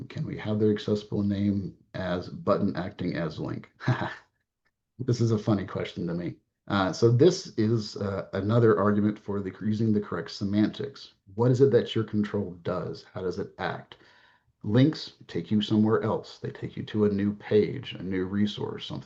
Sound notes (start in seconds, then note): 3.7 laughs